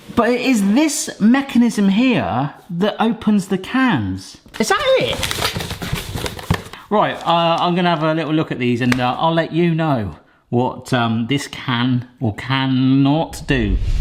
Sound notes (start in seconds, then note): 4.6 packaging rustles